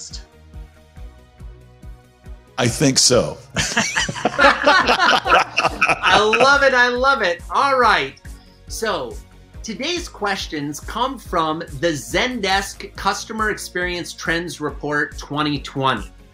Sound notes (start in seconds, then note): 3.6 laughing